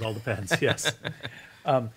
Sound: laughing

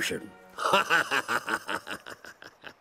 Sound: laughing

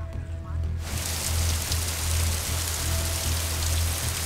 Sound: sound of waterfall

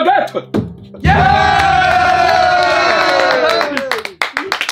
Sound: all cheering and clapping

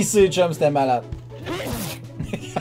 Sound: sneezes

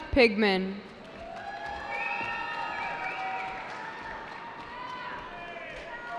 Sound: cheering

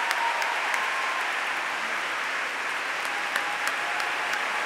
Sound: applause

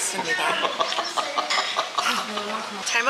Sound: just laughing

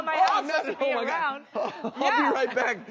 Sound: laughs

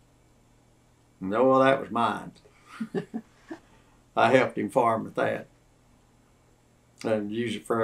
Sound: laughter

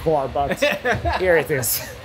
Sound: laughing

